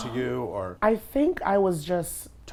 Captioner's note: sigh